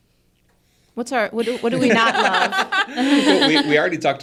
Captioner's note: participants laughing